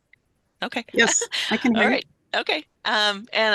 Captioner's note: laughs